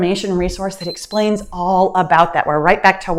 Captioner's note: timer beeps